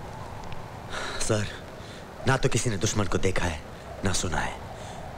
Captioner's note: Sighs